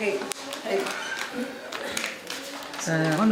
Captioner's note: rustling